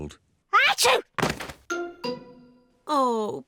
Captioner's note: sneezes